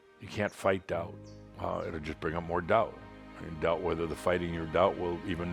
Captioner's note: none